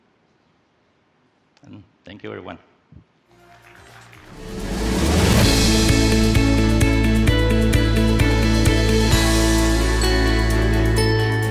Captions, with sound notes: And thank you, everyone. (upbeat music) (audience applauds)